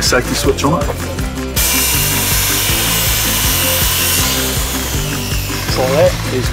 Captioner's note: buzz saw